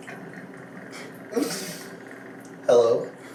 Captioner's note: laughs